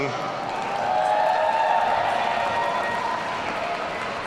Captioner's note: audience cheering